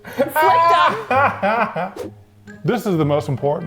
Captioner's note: laughing